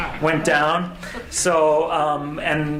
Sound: audience laughs

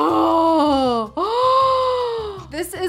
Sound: gasps

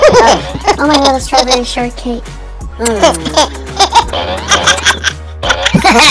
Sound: giggles; makes kissing noises; both laughing

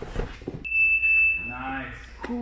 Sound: alarm beeps

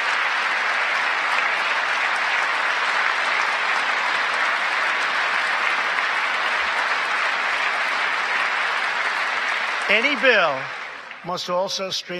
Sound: applause

